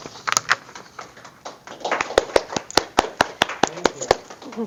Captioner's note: audience applause